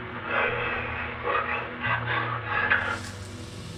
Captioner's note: none